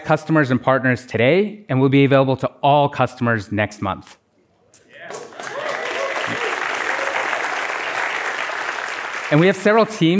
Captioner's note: applause